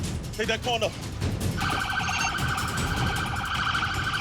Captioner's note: siren blaring